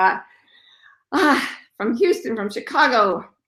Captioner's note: sighs